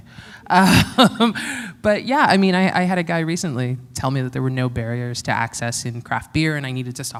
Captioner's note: chuckle